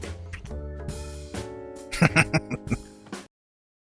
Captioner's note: laughing